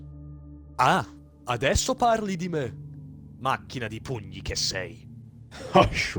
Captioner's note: ghost speaks italian